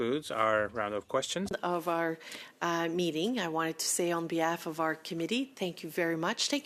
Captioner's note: speaking French